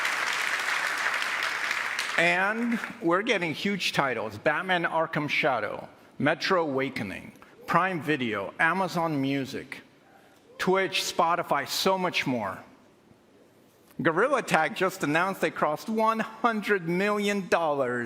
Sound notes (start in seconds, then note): 2.5 applause